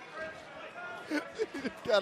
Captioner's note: laughter